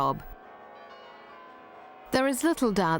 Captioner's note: bells ringing